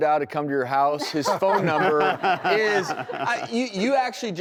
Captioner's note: laughing